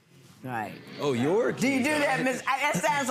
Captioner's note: audience muttering